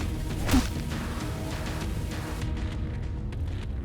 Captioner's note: gun thudding; mellow upbeat music